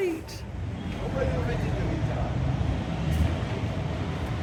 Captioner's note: sound of traffic